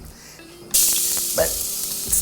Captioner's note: oil sizzling